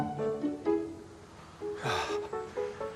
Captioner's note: sighs